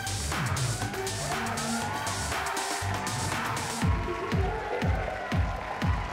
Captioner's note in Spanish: aplausos y exclamaciones